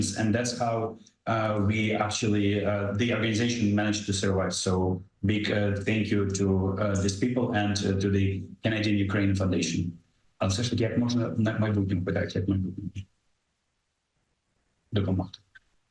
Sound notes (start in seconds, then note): 10.4 speaking ukrainian